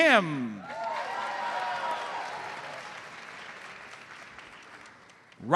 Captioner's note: audience cheers and applauds